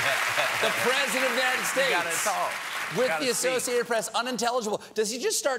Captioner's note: laughter